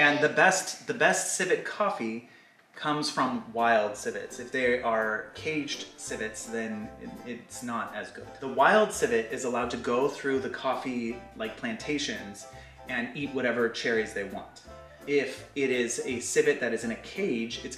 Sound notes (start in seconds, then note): none